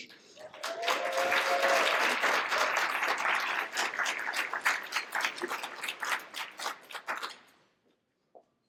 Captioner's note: applause